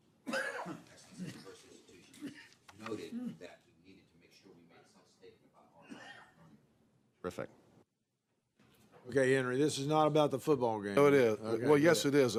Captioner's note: off mic